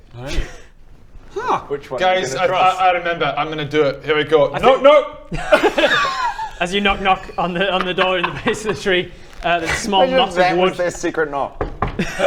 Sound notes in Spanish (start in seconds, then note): 5.3 risas